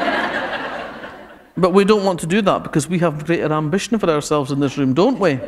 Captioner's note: laughter